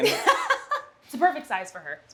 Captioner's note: laughter